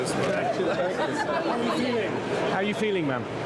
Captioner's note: journalists clamoring